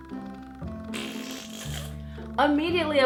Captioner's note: farting sounds